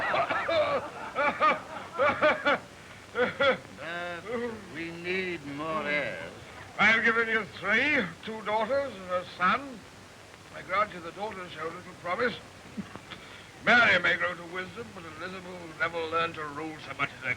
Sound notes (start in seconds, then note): 0.0 laughter becoming louder; 0.0 laughter subsides